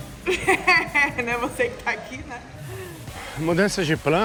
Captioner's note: laughs